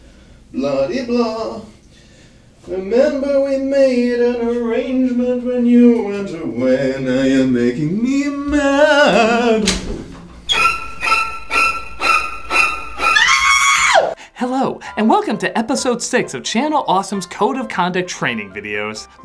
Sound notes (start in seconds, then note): 8.4 door opens; 13.2 high-pitched scream